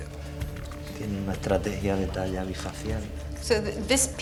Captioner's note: speaking Spanish